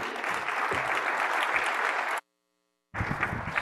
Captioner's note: applause